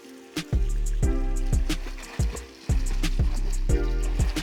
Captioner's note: water sounds